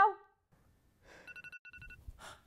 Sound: woman sighing; alarm chiming

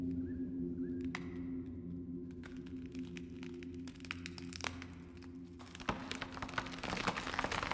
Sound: breaking branches

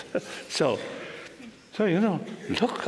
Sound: laughter

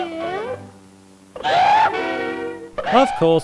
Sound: all squawk

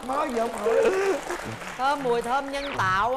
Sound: laughing

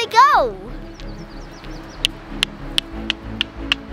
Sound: rocks clicking

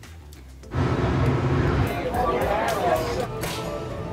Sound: chattering

